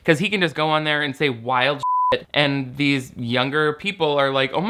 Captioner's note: beep